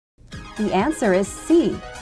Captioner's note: female announcer speaking